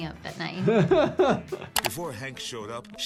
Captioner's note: doctor laughs